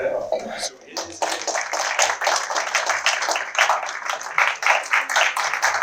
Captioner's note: applause